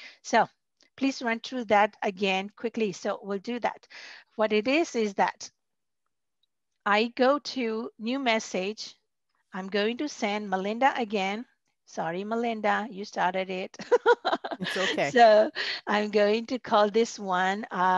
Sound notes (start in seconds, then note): 13.8 laughter